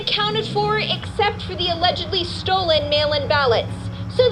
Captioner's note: radio